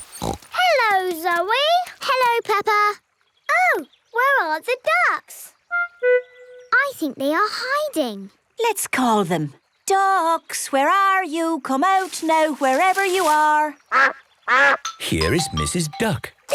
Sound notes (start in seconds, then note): 0.0 snorts; 14.5 quacks